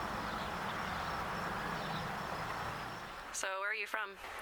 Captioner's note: birds chirping